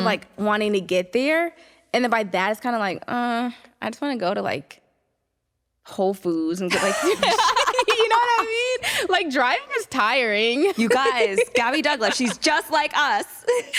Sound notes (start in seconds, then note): 6.7 laughter